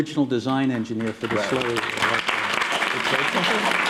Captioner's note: applause